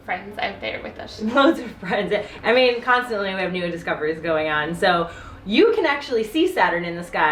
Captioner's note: laughs